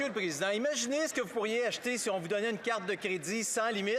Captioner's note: some Applause; speaking French